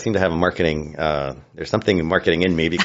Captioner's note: laughs